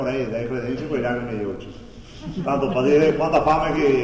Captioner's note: laughs